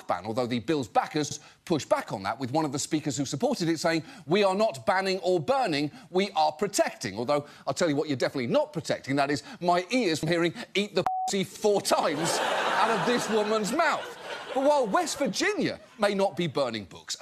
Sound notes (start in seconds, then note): 11.9 audience laughs